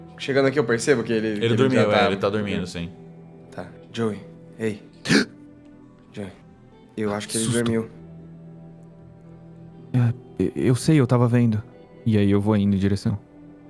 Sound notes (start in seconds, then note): 4.5 gasp